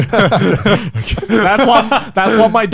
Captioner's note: men laugh